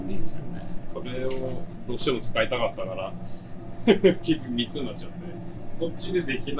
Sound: laughs

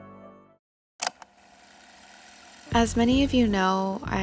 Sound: video tape clicks

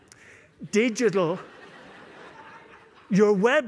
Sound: laughter

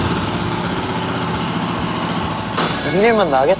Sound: majestic exhaust sound

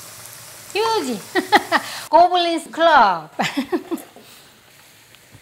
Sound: laughter

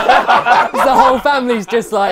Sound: people laughing

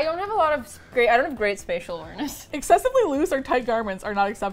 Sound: laughs

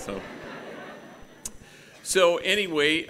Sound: gathering laughing

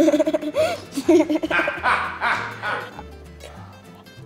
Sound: male voice laughs; laughs

